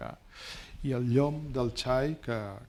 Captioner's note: speaking spanish